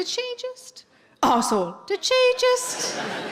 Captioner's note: coughing